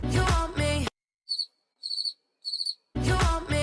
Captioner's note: cricket sounds